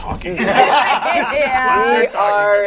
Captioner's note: all laugh